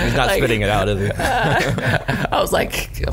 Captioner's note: laughs